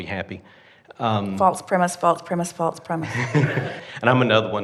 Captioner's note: laughs